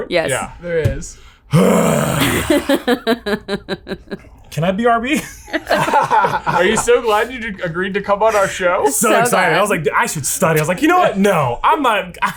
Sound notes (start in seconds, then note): 1.5 grunting; 5.1 laughing